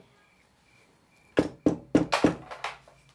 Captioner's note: knocking